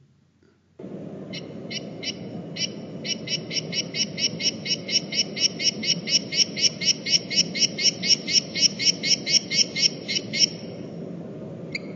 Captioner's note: sounds of frog calling